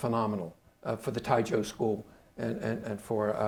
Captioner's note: speaking Chinese